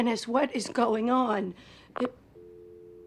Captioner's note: receiver clicks